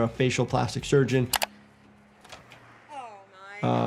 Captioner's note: computer mouse clicks